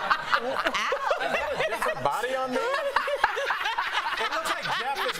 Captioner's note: laughter